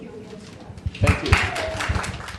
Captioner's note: audience applauding